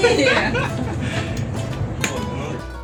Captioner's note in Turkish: kahkaha